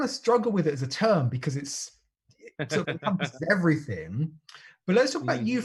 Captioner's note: laughs